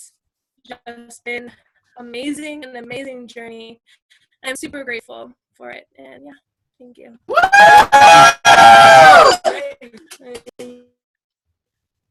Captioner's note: cheers